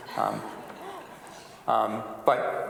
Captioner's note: audience laughs